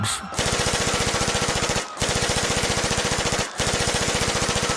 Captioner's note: machine gun fire and screaming